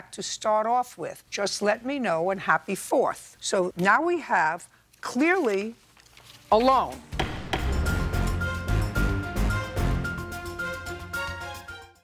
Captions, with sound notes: to start off with. Just let me know and happy 4th!" So now we have clearly a loan. (gavel thumping) (dramatic music)